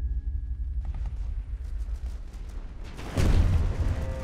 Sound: guns popping; RPG bangs

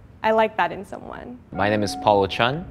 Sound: bell chimes

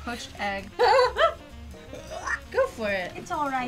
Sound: exclaiming

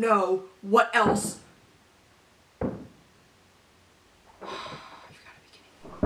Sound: distant banging

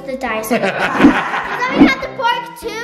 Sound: laughs

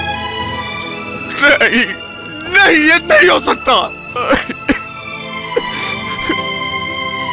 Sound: crying

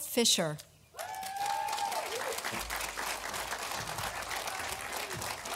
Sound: audience applauding

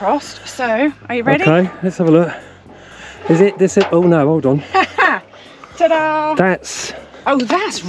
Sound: laughter

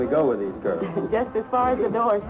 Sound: laughter

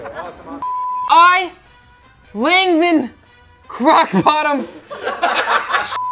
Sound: beep

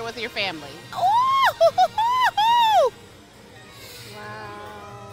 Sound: squeals

